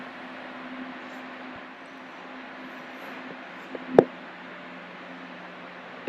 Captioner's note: rink noise